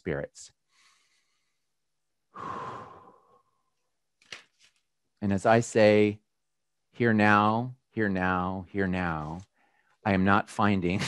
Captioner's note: breathes deeply